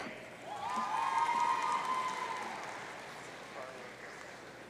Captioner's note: audience cheering